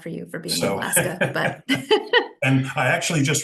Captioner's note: laughs